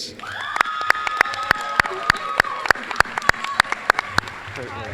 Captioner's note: applause, cheering